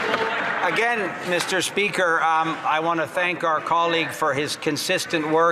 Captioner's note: some Applause